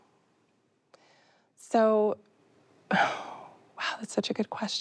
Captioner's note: sighs